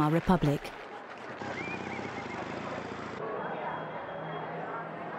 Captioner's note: street noise